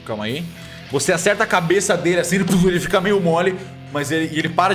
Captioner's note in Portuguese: tudum